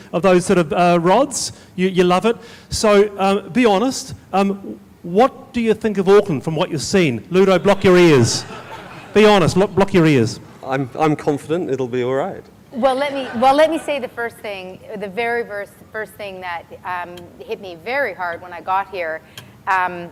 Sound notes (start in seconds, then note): 7.6 laughs loudly